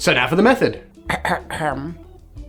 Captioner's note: ahem